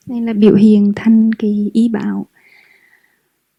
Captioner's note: Vietnamese